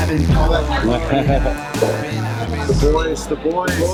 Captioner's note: laughing